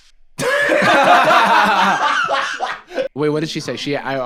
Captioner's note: both laughing